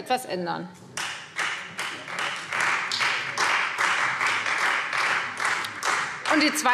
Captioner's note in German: Beifall Freie Demokraten